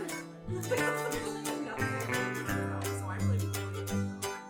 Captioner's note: guests chatting